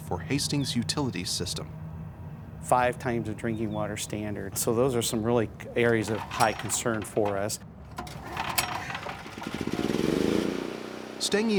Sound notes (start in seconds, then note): 2.8 voiceover; 8.7 generator rumbles